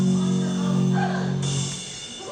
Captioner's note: gasps